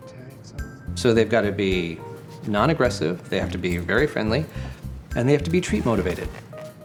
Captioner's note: narrating